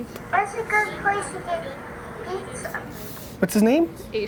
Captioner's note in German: Voice-over